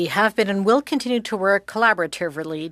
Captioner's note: speaking French